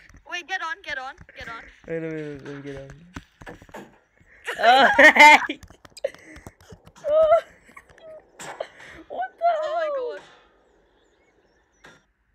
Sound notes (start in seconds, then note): 7.7 laughing